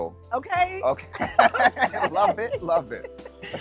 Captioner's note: both chuckle